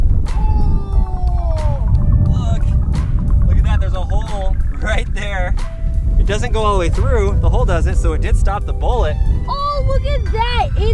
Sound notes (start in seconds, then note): 5.1 laughs